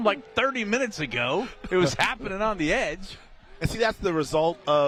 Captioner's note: laughter